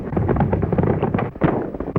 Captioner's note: gunshot